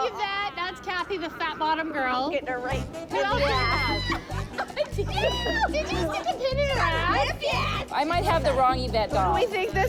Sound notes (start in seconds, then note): 3.4 screams